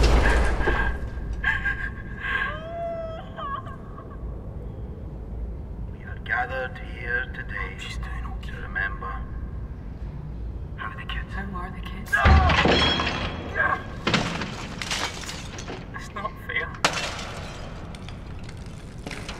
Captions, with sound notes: *Mother and child crying* We are gathered here today... I hope she’s doing okay. ...to remember How are the kids? *Angry teenager noises* It’s not fair